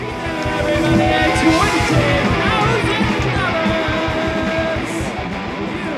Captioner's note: shouting